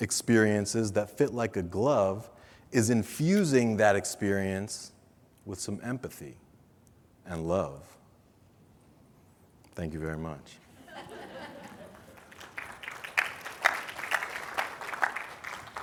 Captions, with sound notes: experiences that fit like a glove, is infusing that experience with some empathy and love. Thank you very much. (audience laughing) (audience clapping)